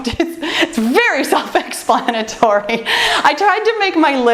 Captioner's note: laughs